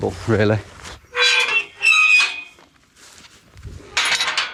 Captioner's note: gates squeaking